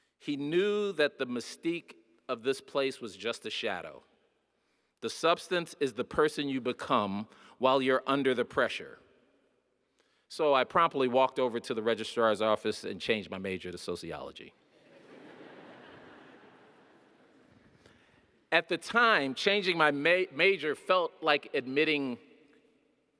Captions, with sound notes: He knew that the mystique of this place was just a shadow. The substance is the person you become while you're under the pressure. So I promptly walked over to the registrar's office and changed my major to sociology. (audience laughing) At the time, changing my major felt like admitting defeat.